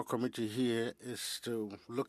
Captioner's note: speaking French